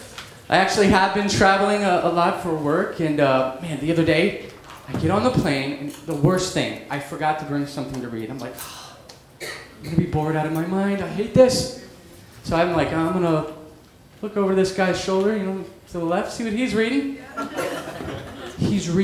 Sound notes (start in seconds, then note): 8.6 sigh